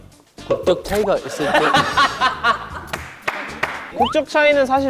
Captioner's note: ha ha ha ha ha